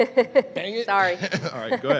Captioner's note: laughs; chuckles